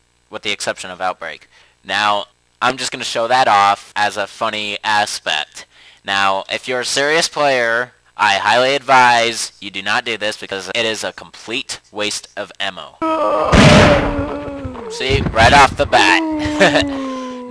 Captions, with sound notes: With the exception of Outbreak Now, I'm just gonna show that off as a funny aspect Now, if you're a serious player, I highly advise you do not do this because it is a complete waste of ammo See? Right off the bat! *laughs*